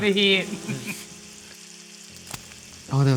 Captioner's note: oil sizzling